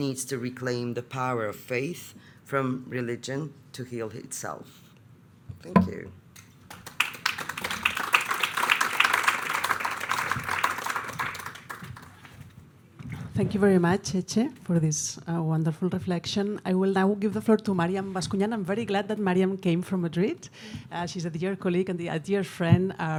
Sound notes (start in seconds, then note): 6.7 audience applauding